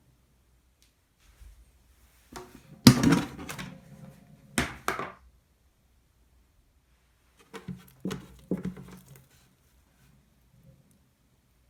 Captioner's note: folding